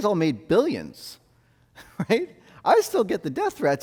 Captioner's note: laughs